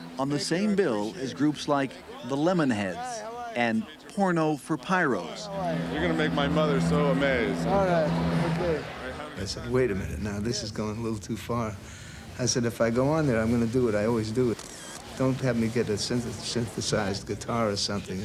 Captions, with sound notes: On the same bill is groups like The Lemonheads and Porno for Pyros. >> You're going to make my mother so amazed. >> All right, OK. >> I said, "Wait a minute, now. This is going a little too far." I said, "If I go on there, I'm going to do what I always do." [camera shutter clicks] Don't have me get a synthesized guitar or something.